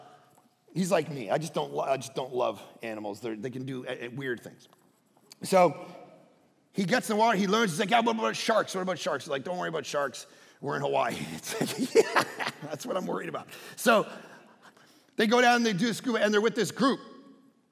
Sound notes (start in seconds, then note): 11.2 laughing